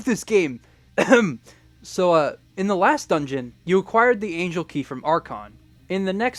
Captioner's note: ahem